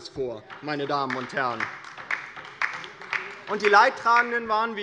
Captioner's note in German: Beifall bei der LINKEN